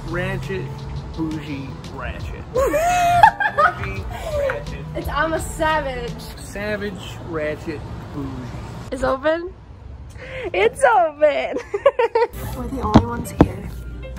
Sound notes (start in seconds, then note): 2.5 laughs